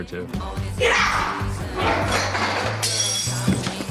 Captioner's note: screaming; glass shatters